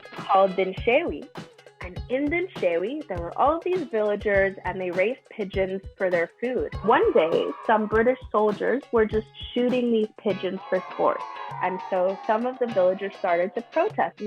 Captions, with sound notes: called Dinshaway. And in Dinshaway, there were all these villagers and they raised pigeons for their food. [Children cheer] One day, some British soldiers were just shooting these pigeons [Children boo] for sports. And so some of the villagers started to protest.